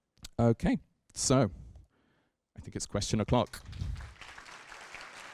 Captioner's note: applause